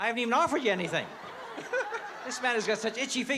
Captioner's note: laughs